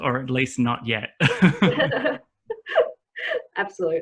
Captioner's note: laughter